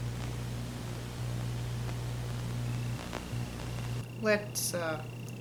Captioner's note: Static